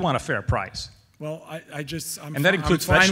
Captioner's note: voiceover